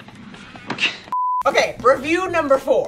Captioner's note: scoffs; beep